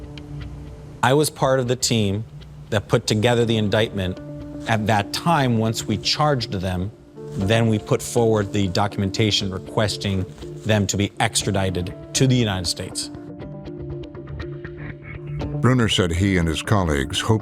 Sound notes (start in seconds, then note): none